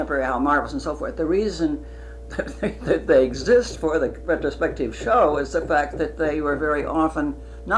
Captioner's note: laughs